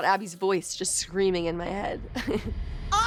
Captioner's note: chuckles